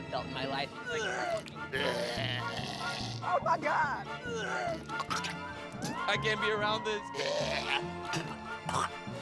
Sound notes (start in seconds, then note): 0.3 retching; 4.8 retching